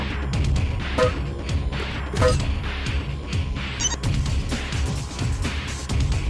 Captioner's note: electronic beeps resound